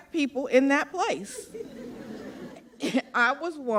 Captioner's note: laughter